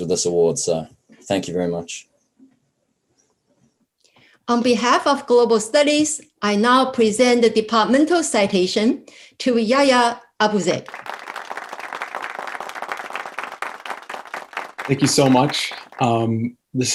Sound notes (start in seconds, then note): 10.8 people clapping